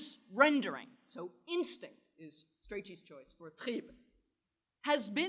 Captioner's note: german